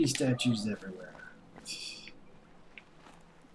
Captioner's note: laughs softly